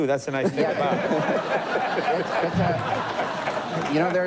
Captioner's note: laughter